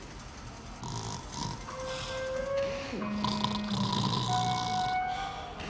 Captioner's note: Clamdip snoring